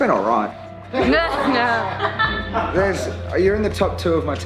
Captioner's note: laughter